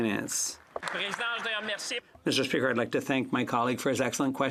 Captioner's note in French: voix de l'interprète